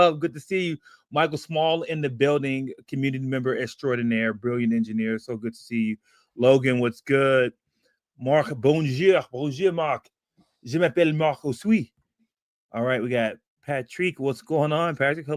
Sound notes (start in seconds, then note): 10.5 speaking french